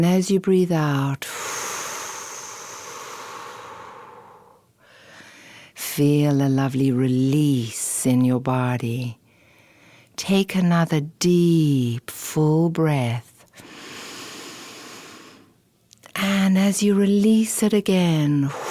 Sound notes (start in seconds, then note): 1.2 exhale; 9.7 inhale; 17.2 exhale